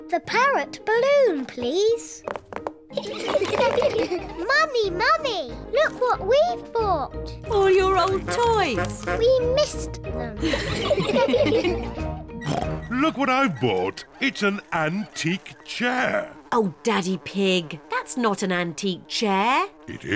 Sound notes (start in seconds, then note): 3.0 all laugh; 10.4 all laugh; 12.5 oinks; 15.7 flies buzzing